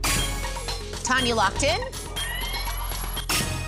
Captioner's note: chime, ticking; chime